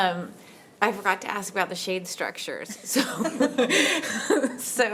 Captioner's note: laughs